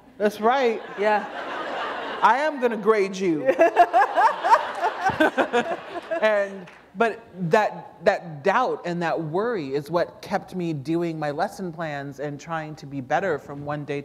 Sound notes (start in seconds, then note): 0.0 laughter; 3.4 laughter